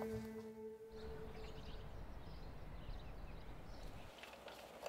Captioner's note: birds chirping